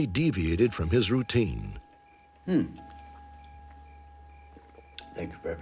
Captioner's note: clock chiming